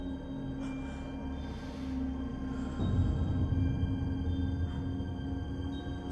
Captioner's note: deep breath